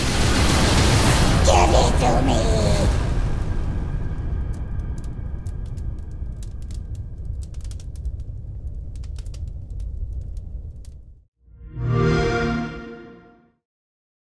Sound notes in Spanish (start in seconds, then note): 11.6 Sonido Xbox